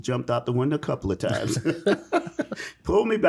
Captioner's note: laugh